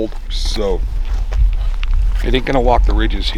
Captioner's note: footsteps